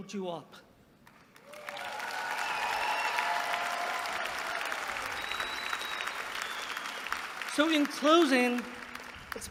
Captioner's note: applause